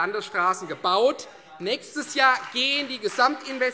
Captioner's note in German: Beifall Freie Demokraten